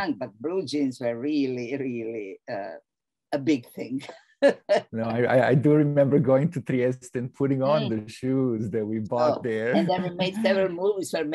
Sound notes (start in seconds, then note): 5.0 laughs